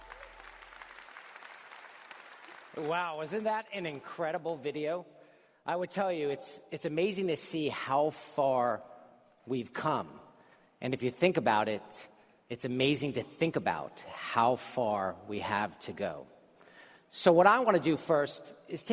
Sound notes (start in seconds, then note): 1.7 applause